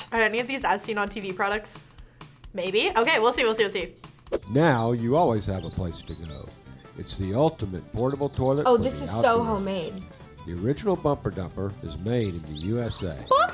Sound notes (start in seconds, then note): 4.3 voice-over; 10.3 voice-over